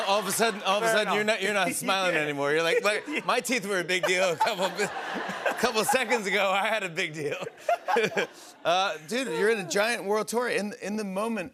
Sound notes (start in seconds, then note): 0.0 laughter; 7.8 laughter